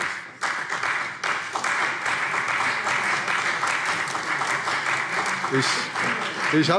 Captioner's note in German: Beifall CDU und vereinzelt BÜNDNIS 90/DIE GRÜNEN